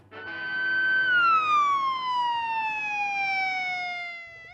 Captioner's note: police siren wails